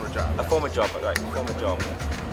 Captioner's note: finger snapping